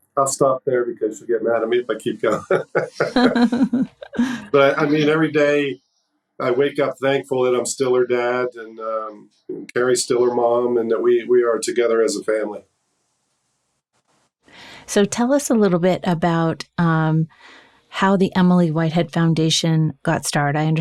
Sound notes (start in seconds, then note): 0.2 chuckles; 2.2 laughs